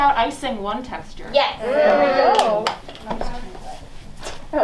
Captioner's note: claps